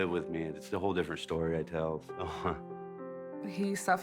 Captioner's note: chuckling